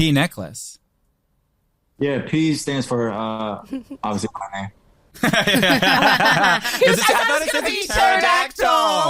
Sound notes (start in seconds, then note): 4.9 static